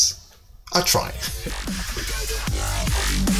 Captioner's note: laugh